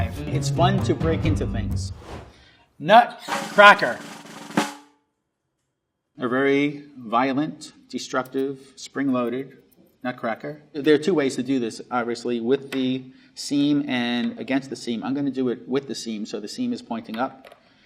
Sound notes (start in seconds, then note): 1.9 air whooshing; 3.2 drum roll tapping